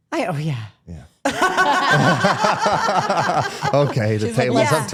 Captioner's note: participants laugh